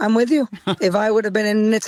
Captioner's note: laughs